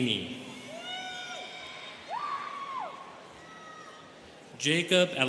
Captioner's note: students cheering